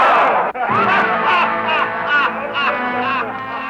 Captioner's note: laughing